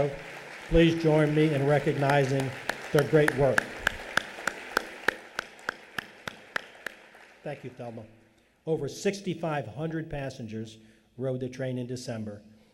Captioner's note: lead Applause